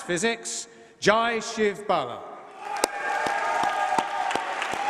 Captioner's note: applause